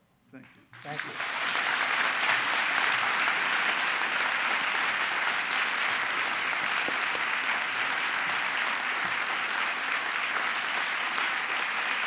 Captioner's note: applause